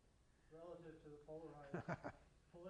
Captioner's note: laughs